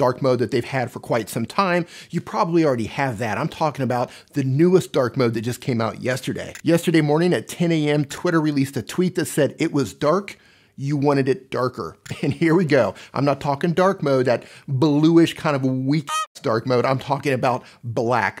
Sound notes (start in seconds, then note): 16.0 duck quacks